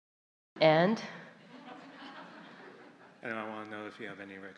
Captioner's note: audience Laughter